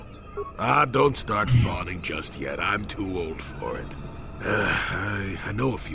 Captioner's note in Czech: povzdech